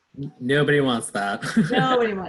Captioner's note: laughs